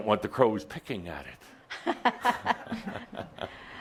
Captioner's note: they both chuckle